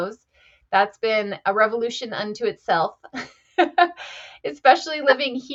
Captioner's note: chuckles